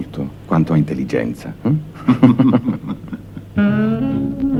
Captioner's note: both laugh